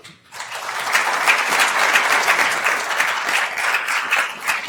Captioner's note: attendees applauding